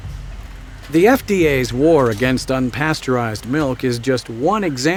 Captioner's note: voiceover